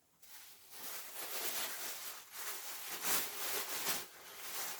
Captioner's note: plastic rustling